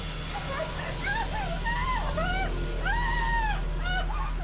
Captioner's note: Sara screaming